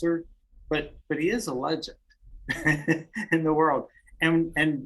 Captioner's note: laughs